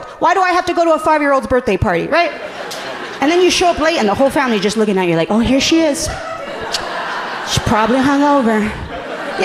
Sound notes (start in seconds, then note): 2.2 audience laughing amusingly